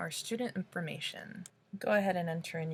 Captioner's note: click